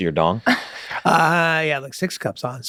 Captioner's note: laughs